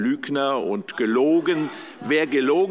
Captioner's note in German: Zurufe von der SPD